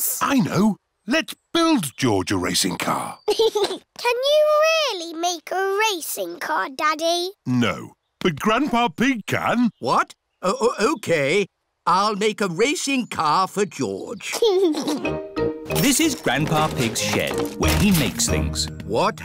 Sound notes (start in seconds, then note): 3.2 chuckles